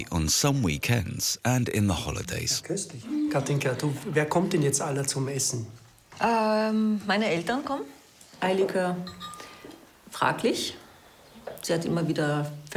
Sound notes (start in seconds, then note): 2.8 speaking foreign language; 6.4 speaking in foreign language